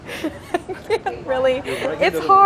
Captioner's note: laughing